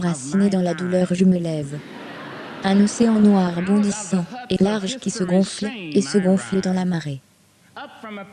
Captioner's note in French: Le public rit